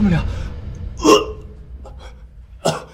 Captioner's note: gag